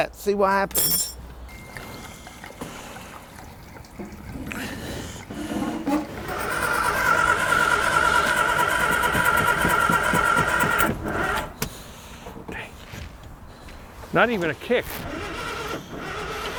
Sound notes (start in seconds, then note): 2.2 fuel dripping; 6.7 engine rumbling